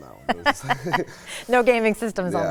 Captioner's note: both laugh